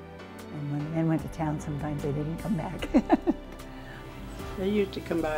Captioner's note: laughing